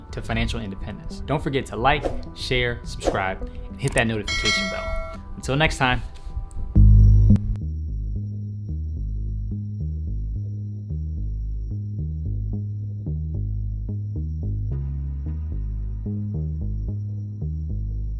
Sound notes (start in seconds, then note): 1.9 whooshing; 4.2 bell ringing; 7.1 calm music